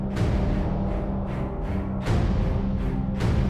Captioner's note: none